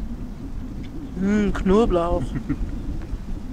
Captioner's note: laughs